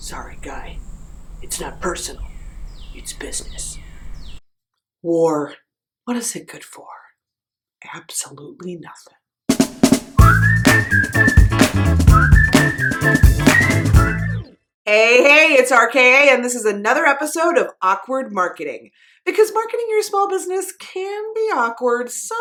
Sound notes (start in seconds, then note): 10.1 upbeat music; 10.2 whistling